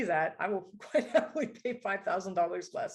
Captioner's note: laughter